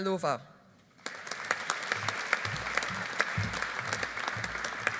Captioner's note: audience applauding